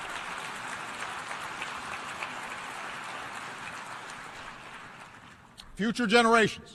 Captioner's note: applause